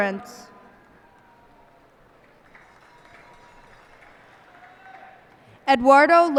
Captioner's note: cheers and applause